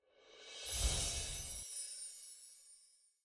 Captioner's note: enchanting sound